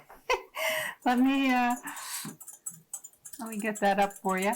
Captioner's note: giggling